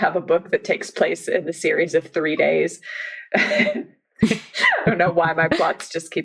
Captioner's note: laughs